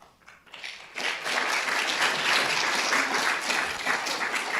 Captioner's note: audience applauding